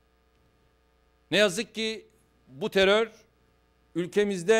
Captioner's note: non-english speech